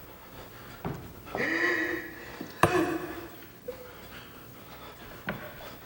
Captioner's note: sobbing